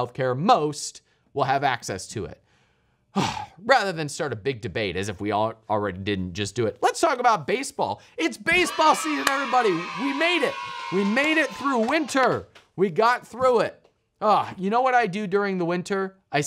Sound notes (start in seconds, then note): 8.4 kids screaming joyfully